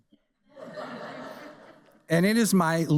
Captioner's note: audience laughs